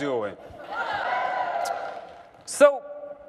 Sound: cheering

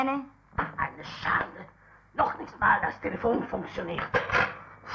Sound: German language

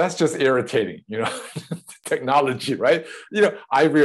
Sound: laughs

